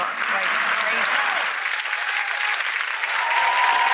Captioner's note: clapping